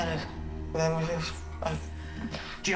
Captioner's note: door opens